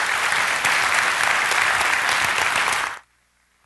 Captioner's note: applause